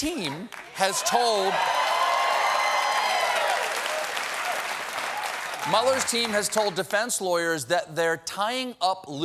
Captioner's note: cheers and applause